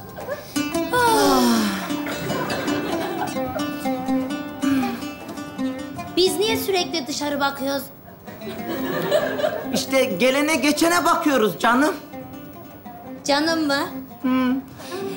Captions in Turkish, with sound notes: (iç çekerler) Biz niye sürekli dışarı bakıyoruz? İşte gelene geçene bakıyoruz canım. Canım mı? Hımm.